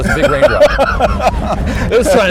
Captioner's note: laughs